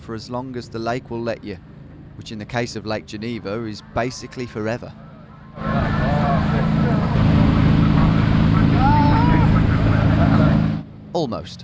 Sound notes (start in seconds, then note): 5.2 engine whirring; 8.7 man groaning